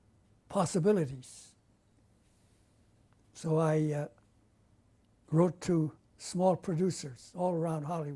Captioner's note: pauses for 3 seconds